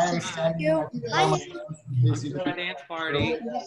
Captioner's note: giggling